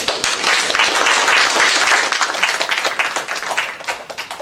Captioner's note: applause